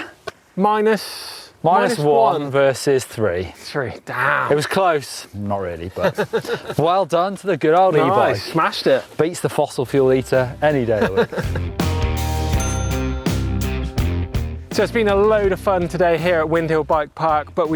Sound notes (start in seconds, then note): 5.9 laughing; 10.4 bouncy music